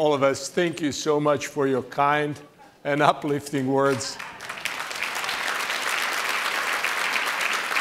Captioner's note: applause